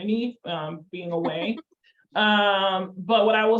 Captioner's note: laughs